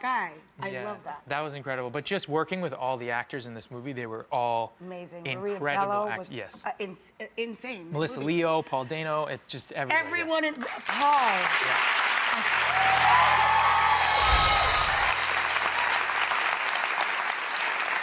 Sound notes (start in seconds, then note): 12.5 applause